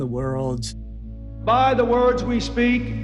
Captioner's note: soundbite of archived recording